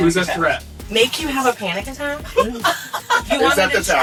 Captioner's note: laughing